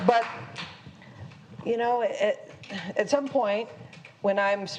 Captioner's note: applause